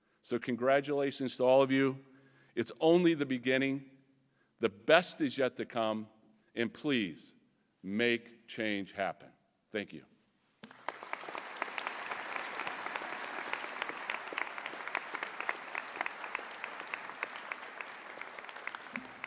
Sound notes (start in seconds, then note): 10.6 audience applauding